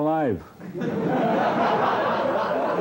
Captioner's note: laughing